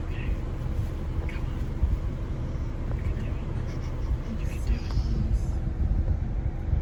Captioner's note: whispering